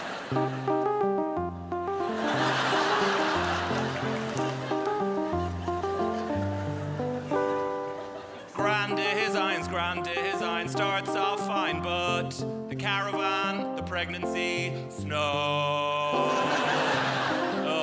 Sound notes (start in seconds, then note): 5.4 crowd laughs; 7.9 sings